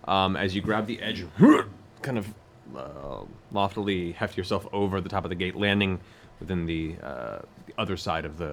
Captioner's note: grunts